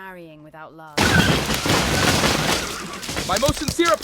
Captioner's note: carriage thuds; horses neigh